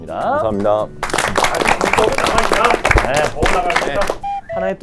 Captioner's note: applause